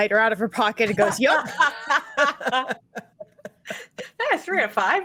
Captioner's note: group laughs